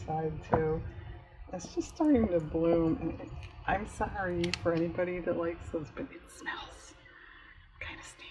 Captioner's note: whispers